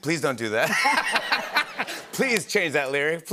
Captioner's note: laughter